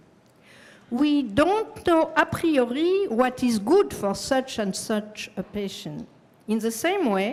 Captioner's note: french